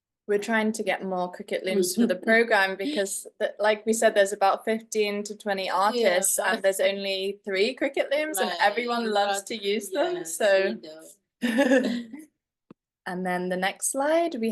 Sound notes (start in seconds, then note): 11.4 chuckles